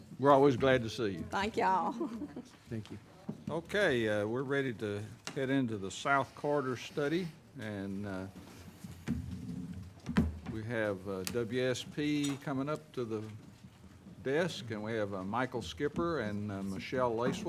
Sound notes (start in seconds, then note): 1.9 chuckles